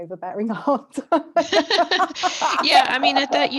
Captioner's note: laughter